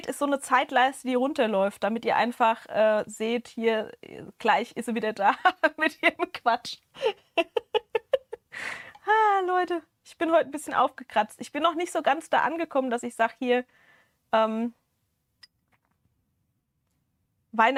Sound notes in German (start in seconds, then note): 7.0 gelächter